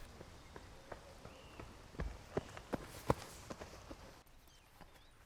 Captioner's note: footsteps